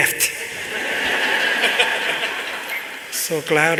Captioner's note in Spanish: Risas